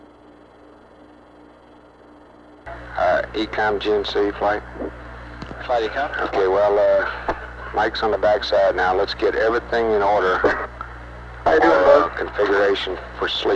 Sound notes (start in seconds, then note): 2.9 mission Control Audio